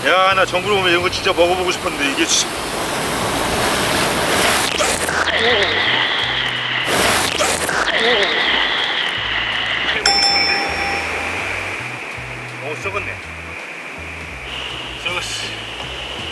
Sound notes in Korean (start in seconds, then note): 4.5 파도 치는 소리 222